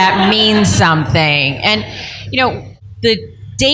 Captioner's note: laughter